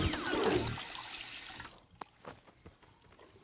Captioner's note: water running